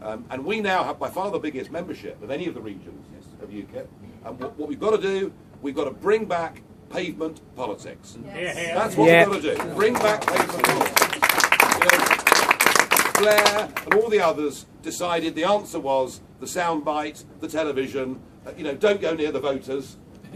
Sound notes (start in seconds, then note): 8.3 crowd